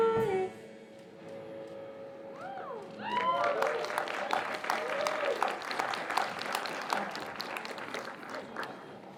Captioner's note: applause